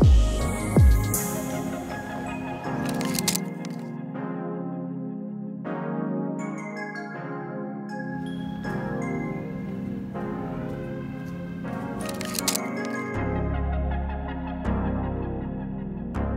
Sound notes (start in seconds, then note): 2.8 shutter clicks; 4.3 upbeat music; 11.8 shutter clicks; 13.5 upbeat music